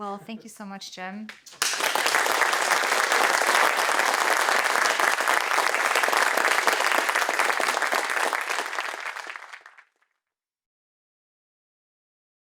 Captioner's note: applause